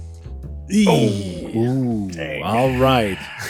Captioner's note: various noises of dismay